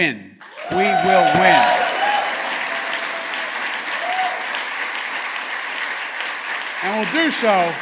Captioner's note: applause